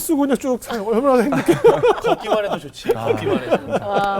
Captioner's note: all laughing